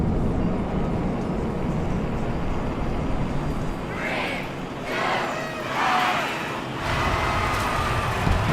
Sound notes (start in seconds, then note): 4.8 cheering